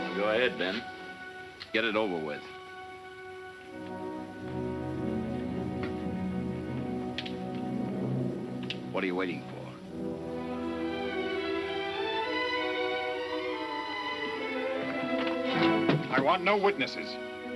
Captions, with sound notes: - Go ahead, Ben. (tense music) Get it over with. (gun clicking) What are you waiting for? (emotional music) - I want no witnesses.